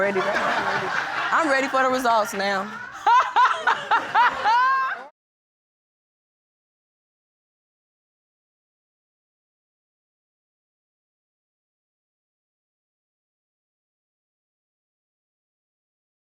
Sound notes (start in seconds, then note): 0.0 audience laughing; 3.4 laughing